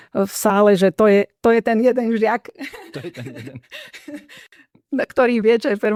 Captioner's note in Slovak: smiech